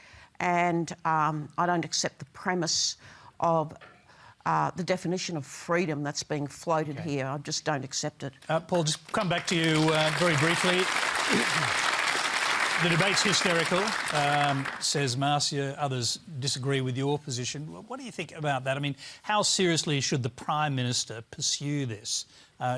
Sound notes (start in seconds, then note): 10.9 applause